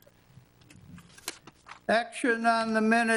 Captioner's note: paper rustles